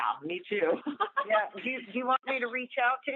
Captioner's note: laughter